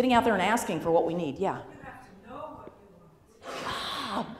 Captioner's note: voiceover